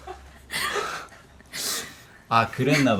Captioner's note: sigh